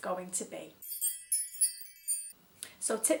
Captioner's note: tinkling bell sound